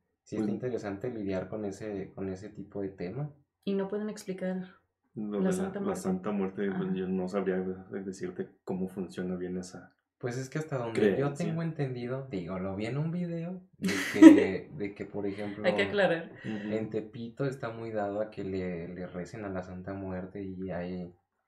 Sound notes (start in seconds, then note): 13.9 laughs